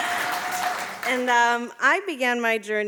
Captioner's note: audience applauding